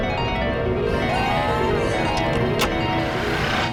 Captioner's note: screams